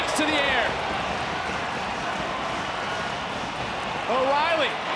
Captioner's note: crowd cheers